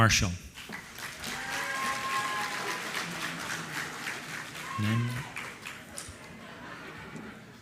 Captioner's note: applause